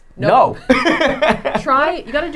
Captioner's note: laughing